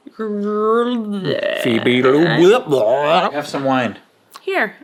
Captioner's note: both imitating tape rewinding